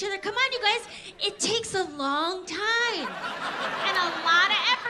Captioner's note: audience laughs